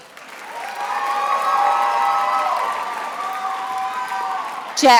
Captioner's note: attendees applauding